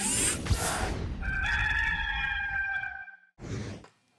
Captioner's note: cock crows